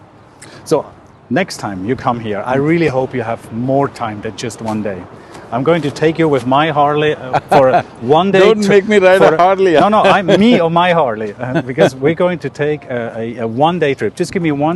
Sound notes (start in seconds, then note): 7.0 Sadhguru laughs